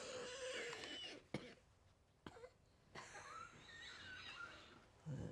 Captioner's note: coughs; coughing